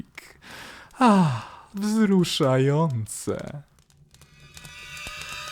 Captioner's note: sighs